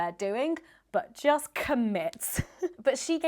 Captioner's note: chuckling